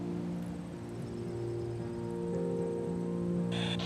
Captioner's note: chattering